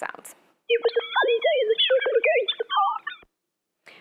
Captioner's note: electronic beeping, whirring